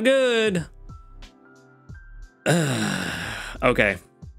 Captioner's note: sighs